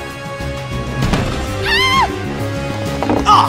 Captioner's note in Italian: grido da femmina